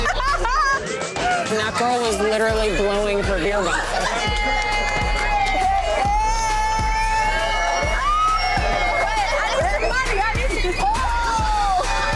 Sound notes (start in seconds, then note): 0.2 girl screeching and laughing; 3.7 girls screaming